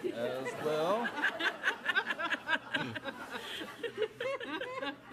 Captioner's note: audience laughing